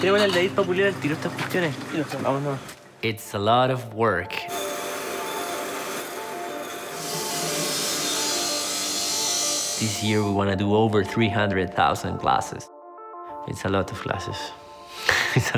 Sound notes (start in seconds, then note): 7.5 machines grinding; 15.0 laughs